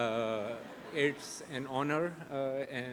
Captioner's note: audience chuckles